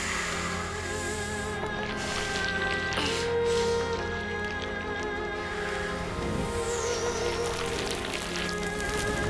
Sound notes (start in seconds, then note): 0.0 breathing deeply; 2.6 winces